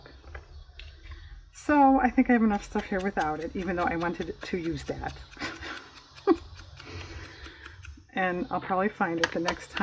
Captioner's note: laughs